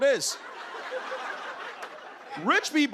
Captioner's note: laughter